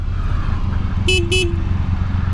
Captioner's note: beep-beep